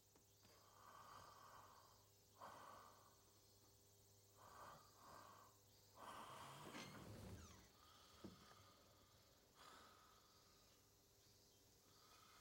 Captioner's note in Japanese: 曾根の寝息